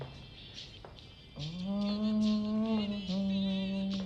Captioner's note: murmurs